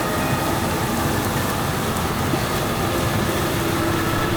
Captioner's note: truck humming